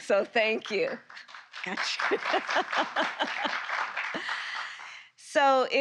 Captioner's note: applause